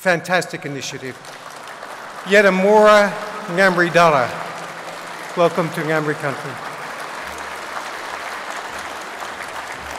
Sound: applause; native language spoken

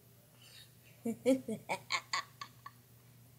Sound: laughs evilly

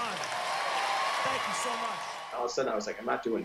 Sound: pat

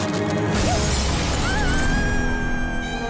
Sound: screaming

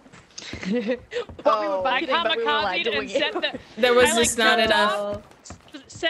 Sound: laugh

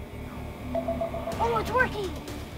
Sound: beeping sound

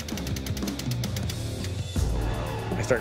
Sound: machinery ticking

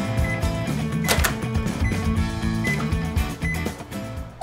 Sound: upbeat music; microwave oven beeping

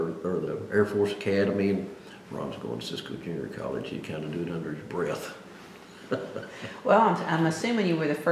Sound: laughs

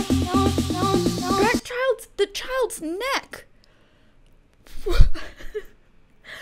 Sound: laughs

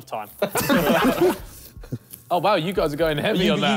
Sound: all laughing

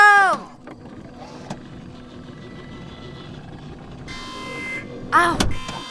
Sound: machine noise is working

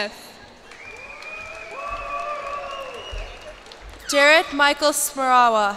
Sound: cheers and applause

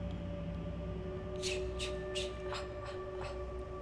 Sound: whisper

